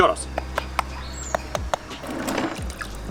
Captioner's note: thud and loud knocking